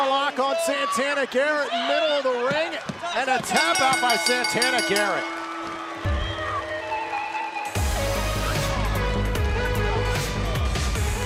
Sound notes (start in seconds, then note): 5.0 bell